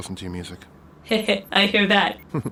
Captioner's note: laughs